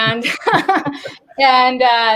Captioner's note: laughs